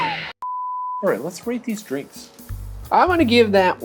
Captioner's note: beep